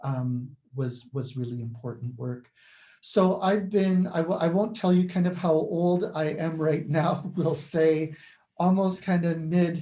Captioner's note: laughs